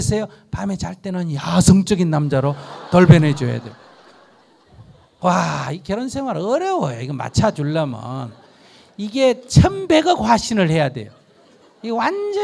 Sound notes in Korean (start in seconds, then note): 2.3 청중 웃음